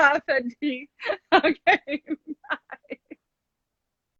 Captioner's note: laughs